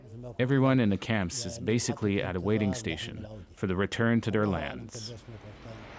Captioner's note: speaking alternate language